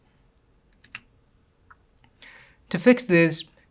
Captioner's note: keyboard clicks